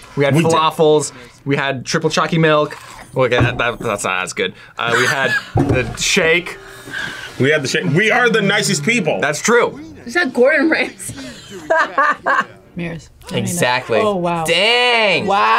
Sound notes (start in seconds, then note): 4.8 laughs; 11.2 laughs